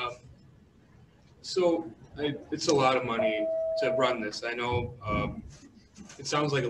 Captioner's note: bell rings